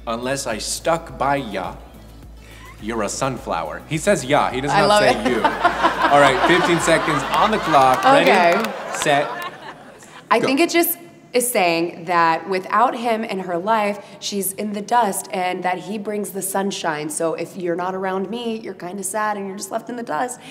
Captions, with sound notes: unless I stuck by ya, you're a sunflower." (laughing) He says 'ya'-- - I love it! - He doesn't say "you." (audience laughs) All right, 15 seconds on the clock. - Okay! - Ready, set, go! - I think it's just, it's saying that without him in her life, she's in the dust, and that he brings the sunshine, so if you're not around me, you're kinda sad, and you're just left in the dust,